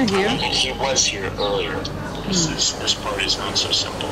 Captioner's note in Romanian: bărbat la telefon